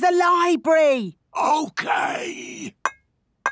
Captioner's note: whispering